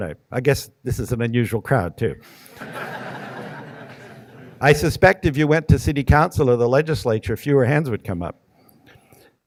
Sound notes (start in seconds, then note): 2.5 audience laughing